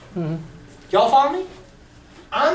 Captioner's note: voiceover